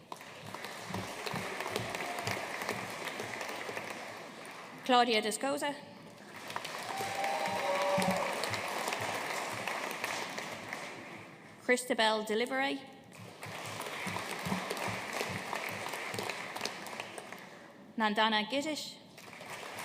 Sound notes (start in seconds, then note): 0.0 audience applauding; 6.2 audience cheering and applauding; 13.2 audience applauding